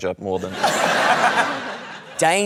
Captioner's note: laughter